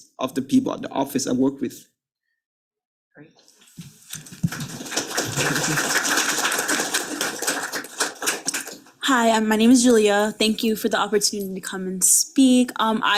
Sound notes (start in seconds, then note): 4.0 panelists and attendees clapping